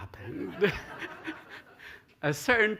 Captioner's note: laughter